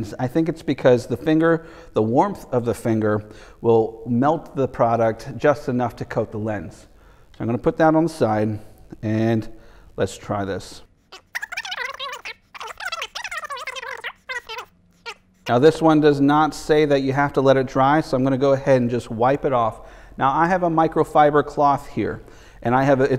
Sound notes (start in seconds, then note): 11.0 tape squealing rapidly